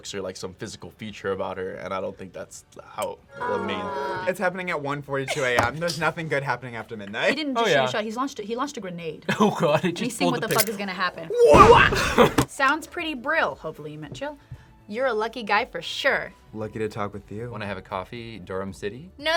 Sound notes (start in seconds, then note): 5.3 laughs; 11.6 explosion echoes